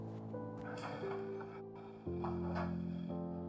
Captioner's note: fridge door opening